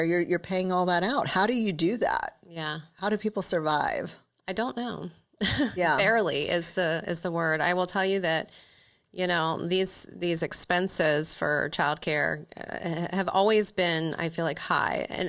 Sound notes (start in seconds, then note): 5.4 chuckles